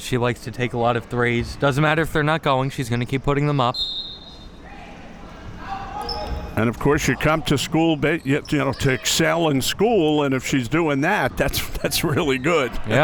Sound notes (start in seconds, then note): 3.7 whistle being blown